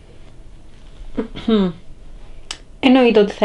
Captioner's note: clears throat